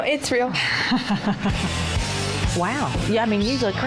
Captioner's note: laughing